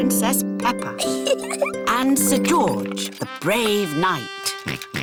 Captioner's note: chuckles; oinks